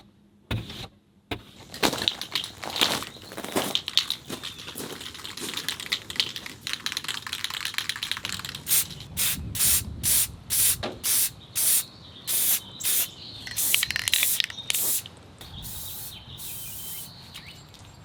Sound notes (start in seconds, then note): 1.7 can shaking; 9.1 can spraying